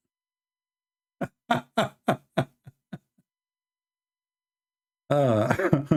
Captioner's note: Ketawa